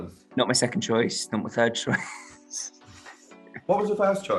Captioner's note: laughs